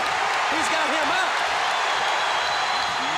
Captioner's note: crowd cheering